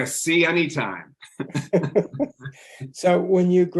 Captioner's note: laughing